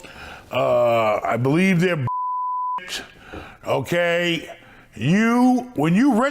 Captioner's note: beep